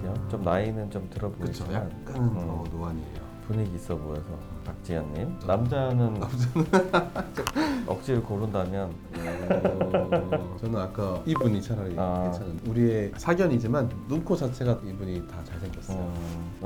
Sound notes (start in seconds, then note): 6.5 laughs; 9.2 more laughing